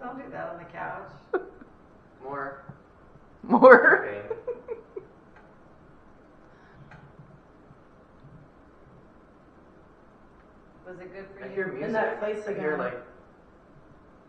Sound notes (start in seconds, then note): 4.2 laughter